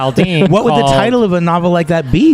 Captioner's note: laughs